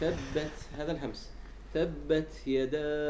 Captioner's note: air flow